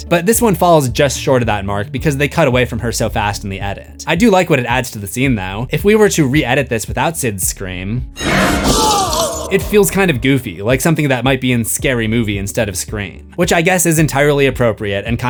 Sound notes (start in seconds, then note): 8.2 screams